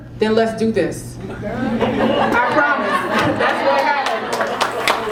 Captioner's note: laugh; applause